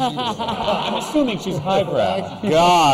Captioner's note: laughter